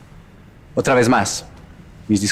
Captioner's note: Spanish